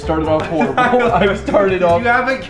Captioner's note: chuckles